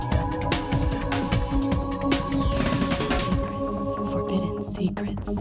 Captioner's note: lady whispering "secrets"